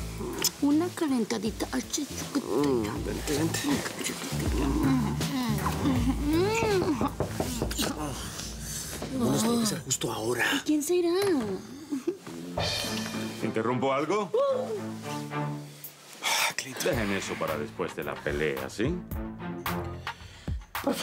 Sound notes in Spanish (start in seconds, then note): 5.5 Murmullos románticos; 6.4 Toques en la puerta